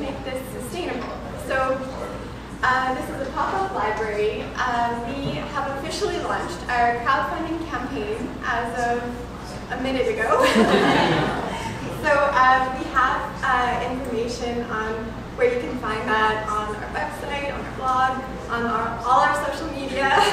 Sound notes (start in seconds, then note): 10.3 laughter